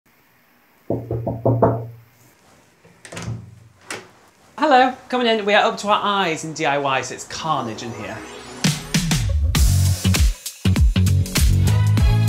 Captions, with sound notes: (knocking on door) - Hello, come on in. We are up to our eyes in DIYs. It's carnage in here. (funky pop music)